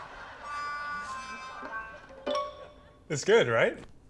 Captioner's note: laughter